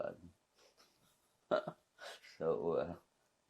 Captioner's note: laughing